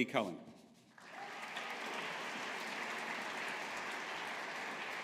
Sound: audience applauding

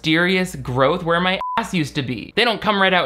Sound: beep

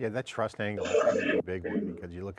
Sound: voice distortion noise drowns out other sounds

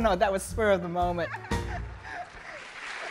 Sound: laughing; audience clapping

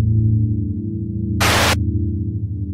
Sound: le Static

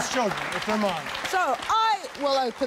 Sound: audience cheering

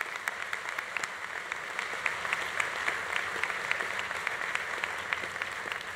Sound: audience applause continues

